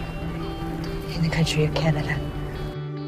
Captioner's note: voiceover